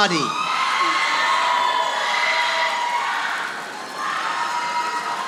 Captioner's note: audience applauding